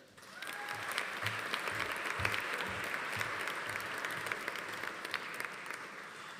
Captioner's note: audience applauding; audience cheering